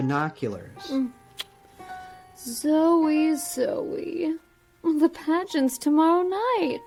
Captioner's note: clicks tongue